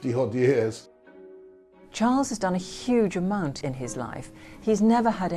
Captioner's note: voiceover